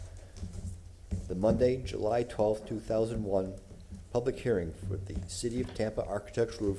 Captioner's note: gavel sounding